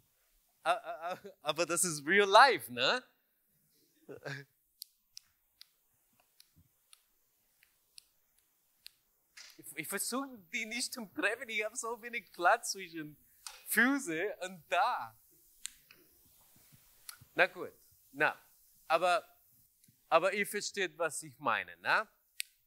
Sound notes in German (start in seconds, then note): 3.5 Klicken